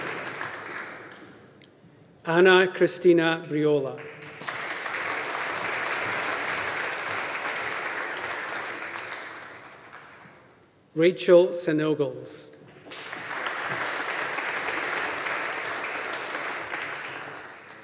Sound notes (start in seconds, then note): 3.9 audience applauding; 12.7 audience applauding